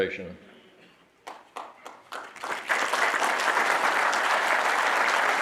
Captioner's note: audience applauding